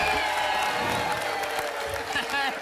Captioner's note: whoosh